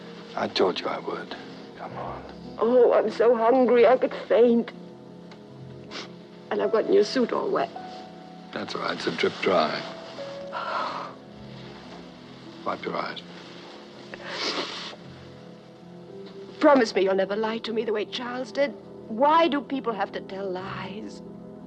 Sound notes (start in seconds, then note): 5.8 sniffling; 10.5 sighs; 14.1 sniffling